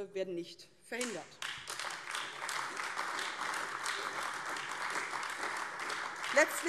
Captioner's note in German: Beifall AfD